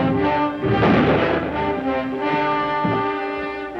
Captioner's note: gunshot